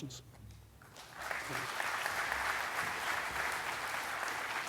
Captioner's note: audience clapping